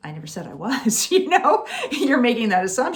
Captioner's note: laughing